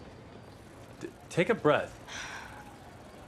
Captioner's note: breathes deeply